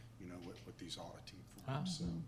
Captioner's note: voice fades